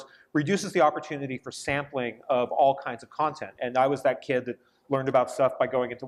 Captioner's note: none